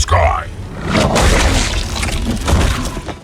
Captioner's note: Crunch